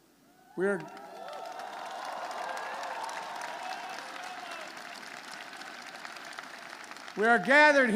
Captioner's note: applause